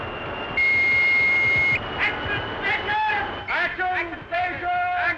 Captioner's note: loud beep; voiceover